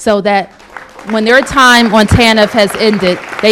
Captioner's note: applause